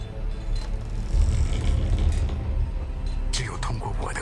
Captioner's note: galley creaking